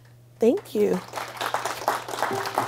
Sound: applause

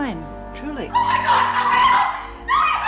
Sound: screaming

